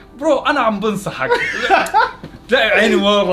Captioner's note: laughing